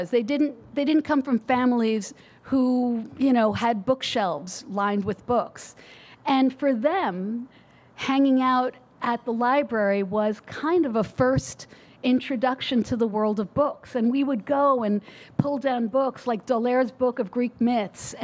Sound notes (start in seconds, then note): none